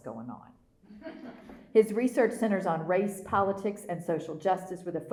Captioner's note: laughter